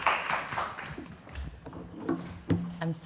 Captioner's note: applause